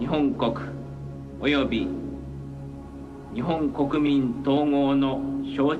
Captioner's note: emperor speaking in Japanese